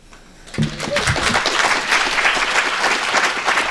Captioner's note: applause